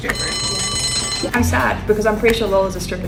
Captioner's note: bell rings